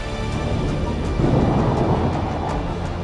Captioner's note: impending doom noises